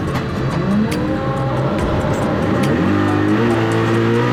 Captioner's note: engine revving